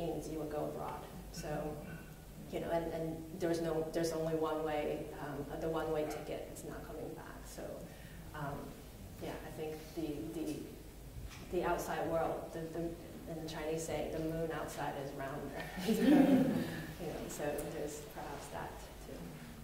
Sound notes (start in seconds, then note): 15.6 laughter